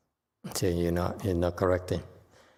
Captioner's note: sighs